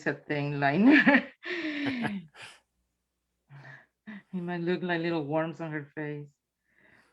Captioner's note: chuckles